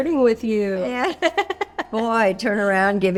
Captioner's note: laughing